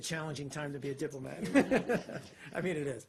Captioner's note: laughter